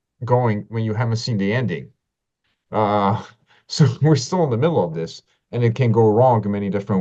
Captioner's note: laughs